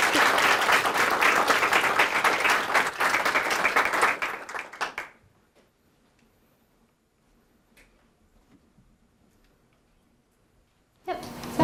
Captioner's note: applause